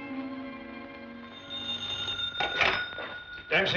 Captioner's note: phone ringing